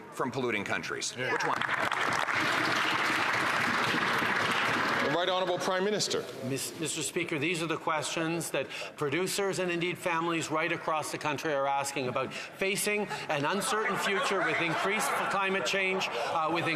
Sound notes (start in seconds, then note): 4.9 some Applause